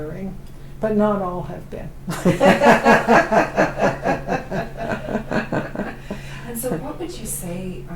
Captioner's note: laughter